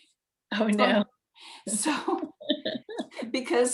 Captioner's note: laughs